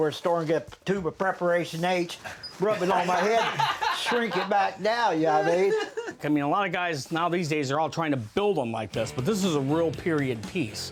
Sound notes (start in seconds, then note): 5.3 laughs